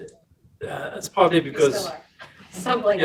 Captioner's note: speaking faintly